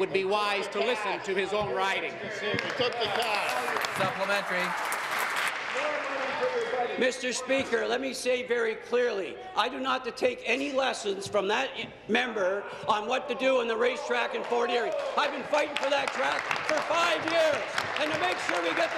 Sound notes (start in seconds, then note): 5.7 applause